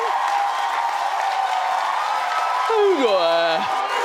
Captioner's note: audience cheers